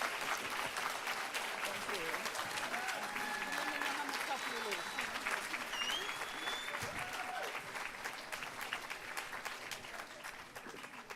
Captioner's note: applause